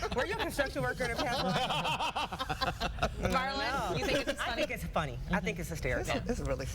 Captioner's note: laughter